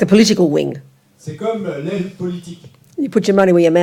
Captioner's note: French